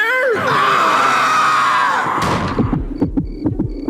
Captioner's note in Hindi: चीखने की आवाज़